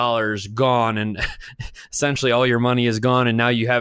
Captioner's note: laughs